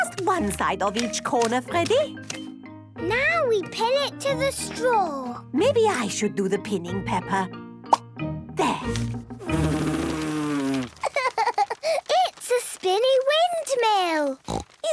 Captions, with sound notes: - Just one side of each corner, Freddy. - Now, we pin it to the straw! - Maybe I should do the pinning, Peppa... There! - (blows) Hee, hee, ha, ha! It's a spinny windmill!